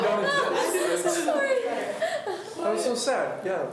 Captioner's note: laughs